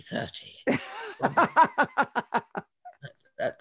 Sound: laughs

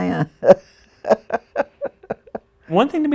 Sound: laughing

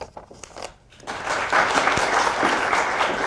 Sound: applause

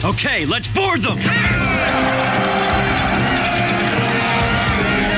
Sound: all shouting

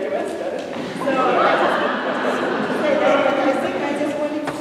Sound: laughter

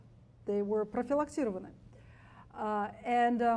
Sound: speaks foreign language

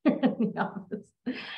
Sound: laughs

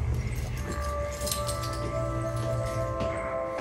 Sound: keys clinging

